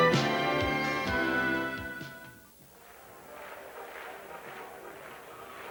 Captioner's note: sounds of crowd